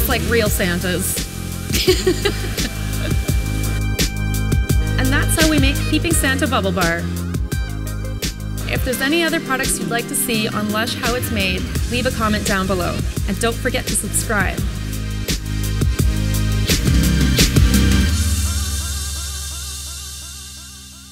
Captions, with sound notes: just like real Santas. (laughing) And that's how we make Peeping Santa Bubble Bar. (upbeat music) If there's any other products you'd like to see on Lush How it's Made, leave a comment down below, and don't forget to subscribe. (upbeat music)